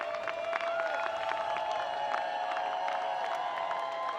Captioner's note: people cheering